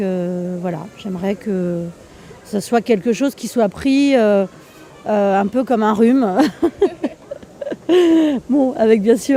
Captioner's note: laughing